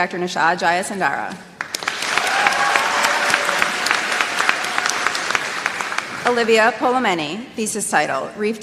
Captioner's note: applause